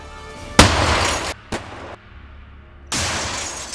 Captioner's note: exploding